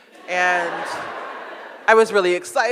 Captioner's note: audience laughs